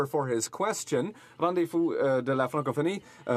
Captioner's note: speaking French